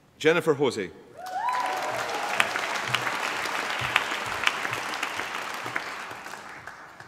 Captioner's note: applause